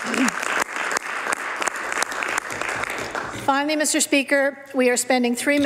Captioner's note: some Applause